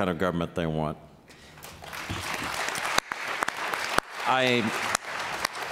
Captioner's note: applause